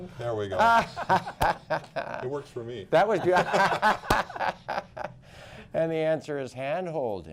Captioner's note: laughter